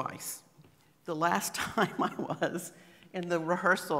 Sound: laughing

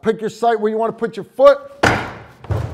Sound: door abuse

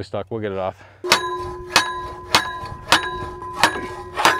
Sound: metal clanging

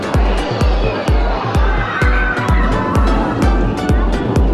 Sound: screaming

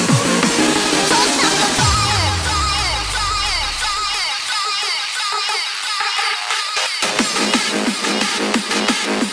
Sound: echo

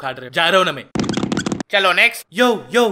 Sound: walking sound

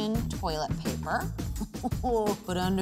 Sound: chuckling

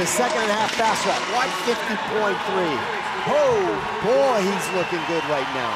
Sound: audience cheering

